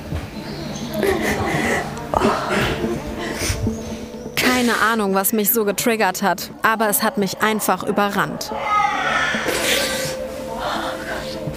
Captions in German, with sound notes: Keine Ahnung, was mich so getriggert hat, aber es hat mich einfach überrannt. (Babyschreien)